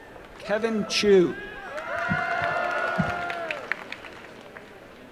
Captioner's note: applause and cheering